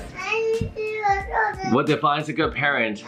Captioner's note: baby babbling